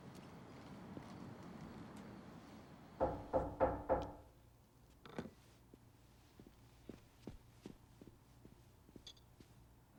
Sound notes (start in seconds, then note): 3.0 door knocking